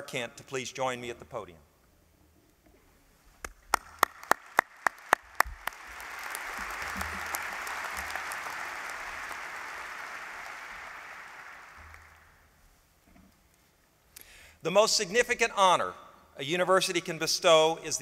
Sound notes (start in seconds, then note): 3.4 applause